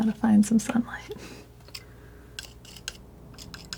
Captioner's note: scraping